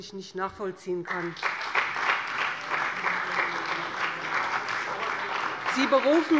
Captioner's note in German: Beifall bei dem BÜNDNIS 90/DIE GRÜNEN und der CDU